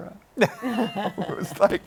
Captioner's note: laughter